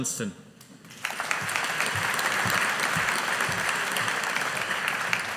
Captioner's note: audience applauding